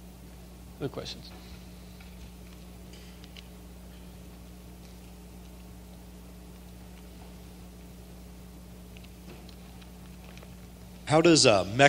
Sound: silence

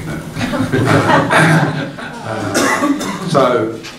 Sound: group laughing

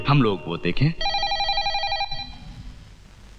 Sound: phone Ringing

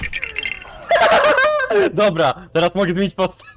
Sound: laugh

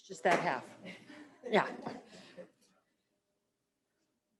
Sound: laughs

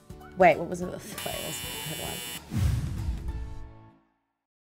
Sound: buzzer sounds

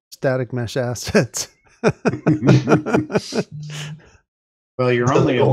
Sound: laughter

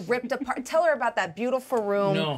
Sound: speaker chuckles

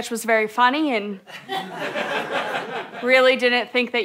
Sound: audience laughter

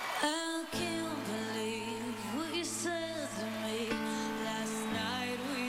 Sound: applause

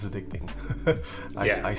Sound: chuckling

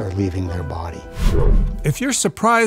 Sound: ghostly whooshing

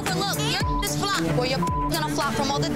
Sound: beep

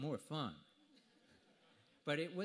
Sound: audience laughter

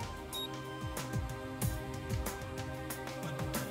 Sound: beeping

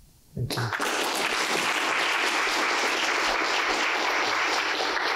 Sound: applause

